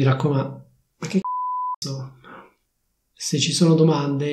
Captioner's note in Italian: beep